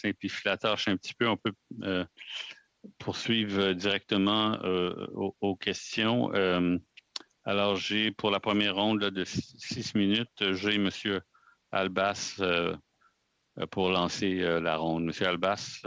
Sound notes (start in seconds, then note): 1.3 speaking French